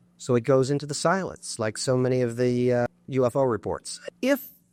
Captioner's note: none